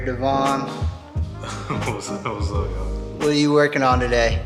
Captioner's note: laughs